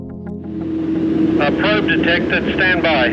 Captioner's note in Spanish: Man Over Radio